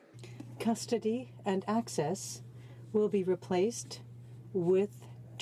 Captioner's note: speaking French